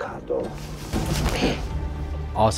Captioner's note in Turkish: Kırılan boyun kemiği sesi